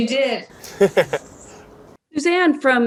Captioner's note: laughs